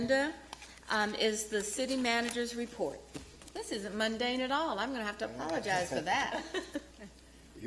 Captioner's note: laughter